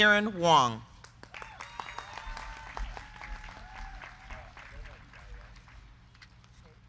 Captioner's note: crowd clapping; crowd cheering